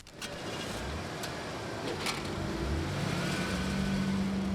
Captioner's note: car engine revs